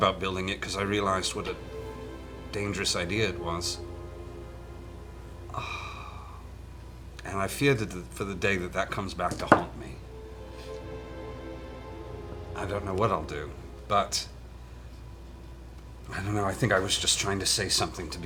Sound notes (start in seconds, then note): 5.4 sighs